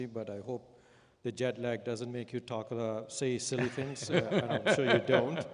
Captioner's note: Sadhguru laughs